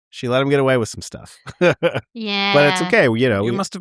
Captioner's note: laughs